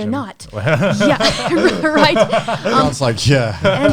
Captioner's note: laughs